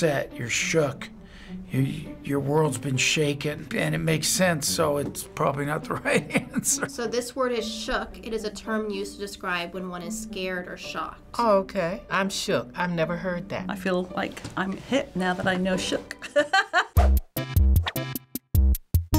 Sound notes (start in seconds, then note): 16.2 laughing; 16.9 quirky interlude